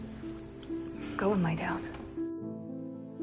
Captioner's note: voiceover